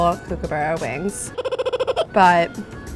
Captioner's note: kookaburra singing